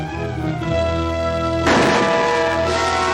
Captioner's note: gun shot